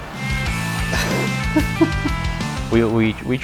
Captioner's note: laughing